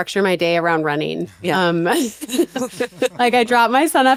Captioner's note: laughter